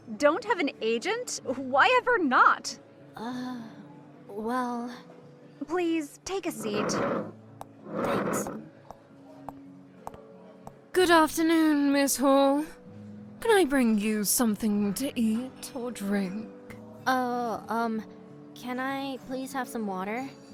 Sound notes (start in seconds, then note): 8.1 chair squeaks